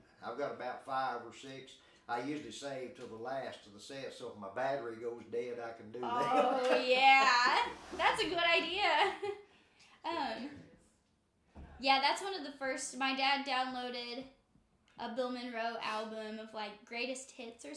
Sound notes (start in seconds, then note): 6.0 laughing